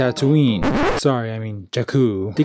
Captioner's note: record scratch